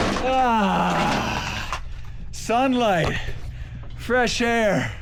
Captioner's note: grunts